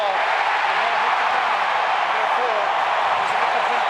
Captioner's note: crowd cheers